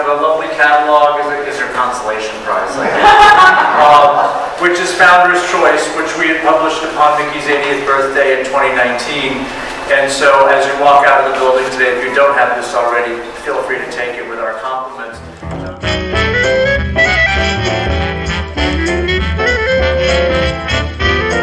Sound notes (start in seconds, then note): 2.4 audience laughs; 14.8 upbeat 1920s music